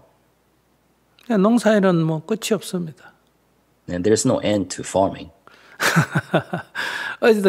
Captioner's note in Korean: 스님 웃음